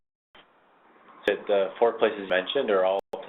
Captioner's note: voiceover